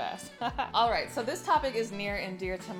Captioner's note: laughs